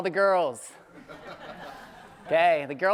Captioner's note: audience laughing